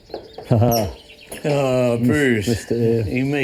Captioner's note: laughs